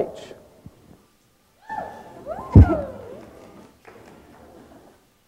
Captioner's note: audience cheering